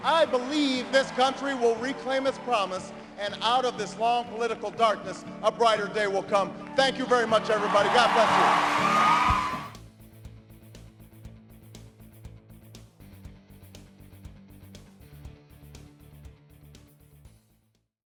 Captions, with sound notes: I believe this country will reclaim its promise and out of this long political darkness a brighter day will come. Thank you very much everybody. God bless you. (applause) (upbeat music)